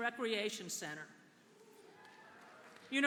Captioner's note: applause